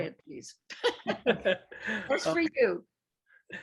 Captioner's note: laughs